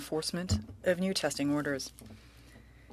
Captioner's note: speaking French